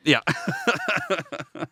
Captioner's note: laughing